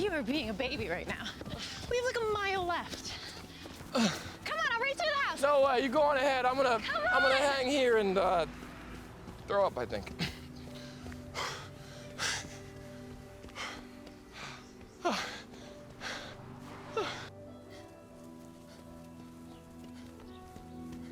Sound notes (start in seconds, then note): 10.6 Sean panting